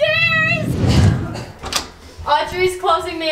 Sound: air whooshing

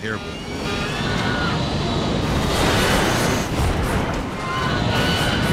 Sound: plane engine roars

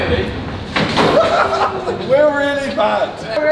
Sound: ball crashing

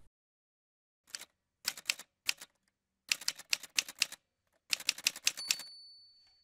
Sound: typewriter sounds

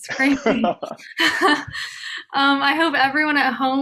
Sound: laughing

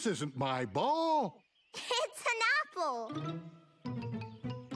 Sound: giggling

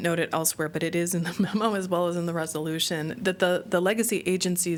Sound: laughter

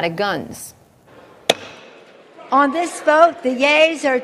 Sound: gavel hit

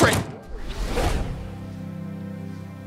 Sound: gentle music; air whooshing

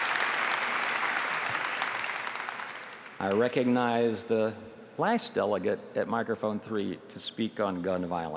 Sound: applause

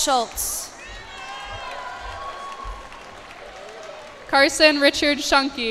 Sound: cheers and applause

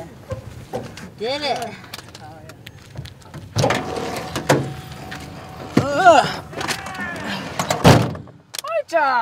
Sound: shouts of Victory and Courage

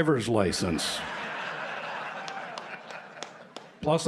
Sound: laughter

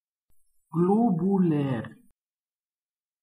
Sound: fast Pronunciation

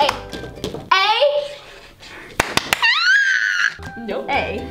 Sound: squeals

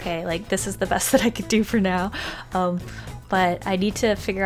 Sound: laughs

